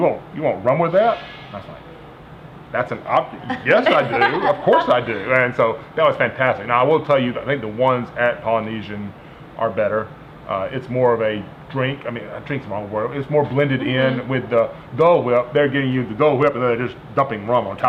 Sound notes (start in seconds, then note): 3.4 laughter